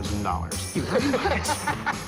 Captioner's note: laughs